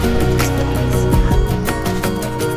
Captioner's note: whispering in background